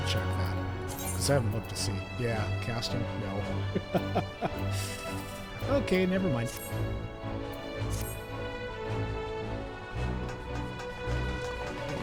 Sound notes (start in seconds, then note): 3.6 laughter